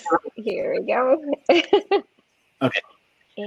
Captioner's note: laughs